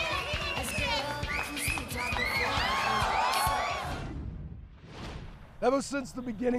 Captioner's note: crowd cheering